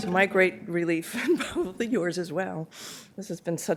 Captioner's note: laughter